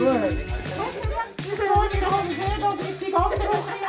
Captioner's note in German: Mit verstellter Stimme